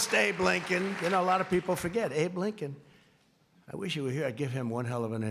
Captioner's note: applause